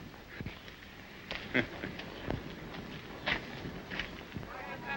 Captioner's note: officer chuckles; men chatter